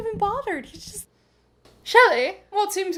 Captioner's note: fancy man voice